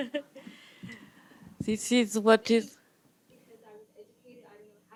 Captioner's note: laughs